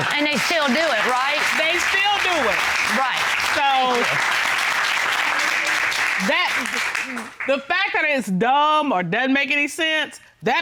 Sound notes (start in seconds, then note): 4.4 applause